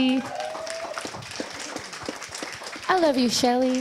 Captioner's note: audience applause